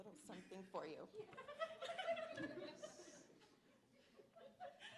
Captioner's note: laughter